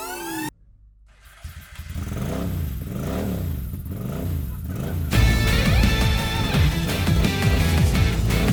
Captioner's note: engine starts and revs